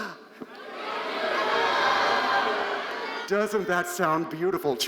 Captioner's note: crowd yelling